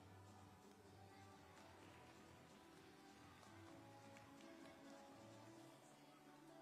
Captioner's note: upbeat music playing; hands clapping; upbeat music playing